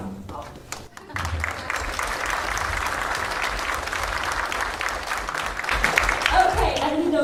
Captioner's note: applause